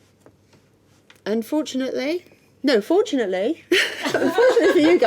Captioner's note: laughing